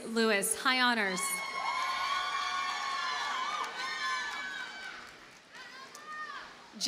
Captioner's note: audience cheers and applauds